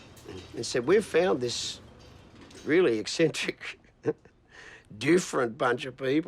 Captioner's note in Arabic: يضحك